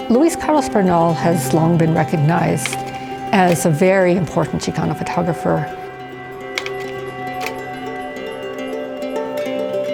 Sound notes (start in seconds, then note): 6.5 projector clicks